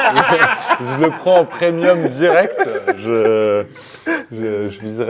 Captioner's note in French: rires